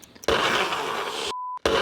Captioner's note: Nutribullet churning